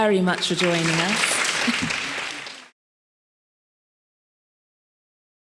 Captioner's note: attendees applauding; laughs